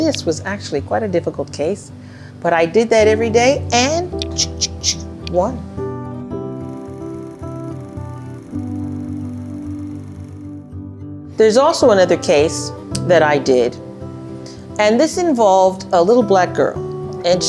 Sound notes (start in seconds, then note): 6.4 soft music; 6.6 film projector sound